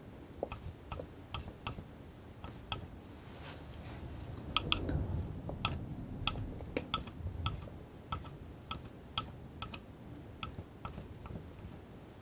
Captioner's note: tapping